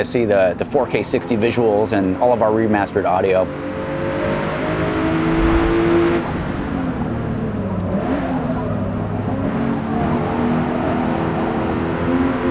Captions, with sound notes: see the 4k60 visuals and all of our remastered audio. [CAR ENGINE]